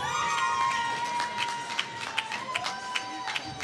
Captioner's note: applause